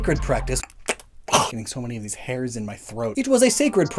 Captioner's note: smacks tongue, hacks